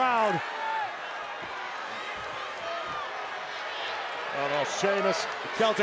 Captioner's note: applause